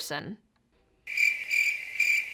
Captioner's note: crickets